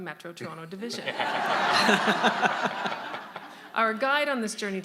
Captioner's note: audience laughing